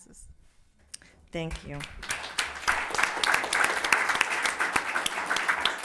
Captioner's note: audience clapping